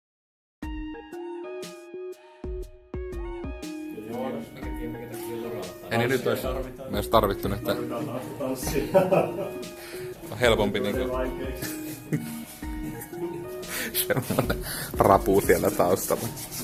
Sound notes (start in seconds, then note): 12.1 laughs